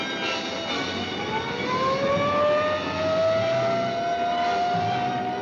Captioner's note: siren wailing